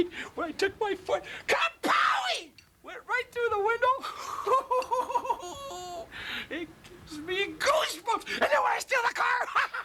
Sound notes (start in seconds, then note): 4.1 giggles